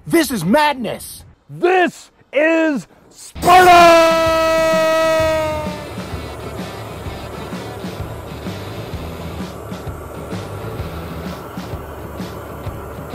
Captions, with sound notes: This is madness! - This is Sparta! (exciting music) (propane torch whooshing)